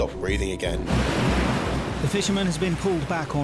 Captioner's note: waves crash